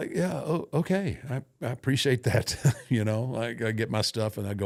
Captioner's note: laughs